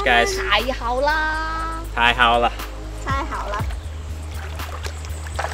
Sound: speaking foreign language

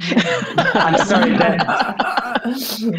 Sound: they all laugh

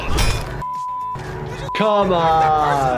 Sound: beep

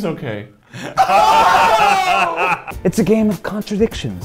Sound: laughing; screaming

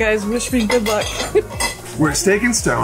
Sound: laughs

